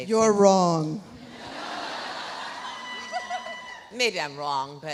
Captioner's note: audience laughs; audience cheering